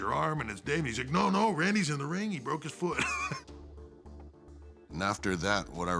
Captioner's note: laugh